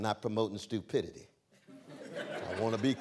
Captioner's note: laughter